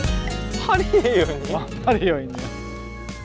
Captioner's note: quavering